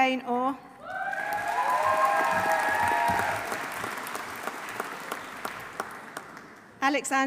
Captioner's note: audience cheering; audience applauding